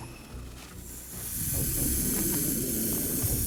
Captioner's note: hissing